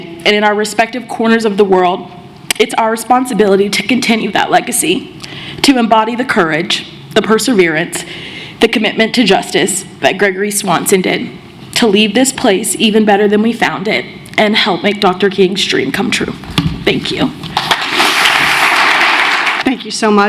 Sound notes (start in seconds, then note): 19.6 applause